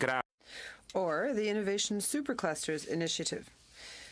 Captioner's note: speaking French